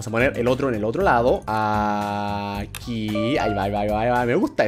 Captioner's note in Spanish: notificación